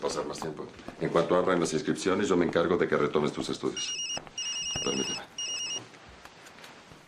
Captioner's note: phone ringing